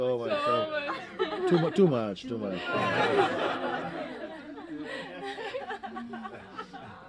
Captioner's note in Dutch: gelach